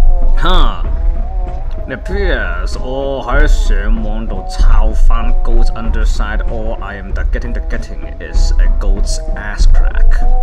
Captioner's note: Cantonese